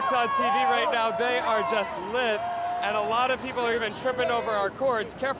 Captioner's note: cheers